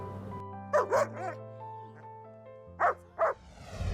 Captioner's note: dog barks